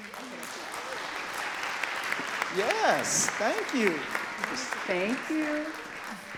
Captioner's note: audience cheering and clapping